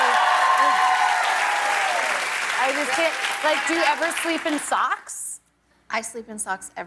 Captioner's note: cheers and applause